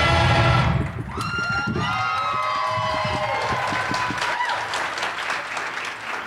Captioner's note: audience applauds and cheers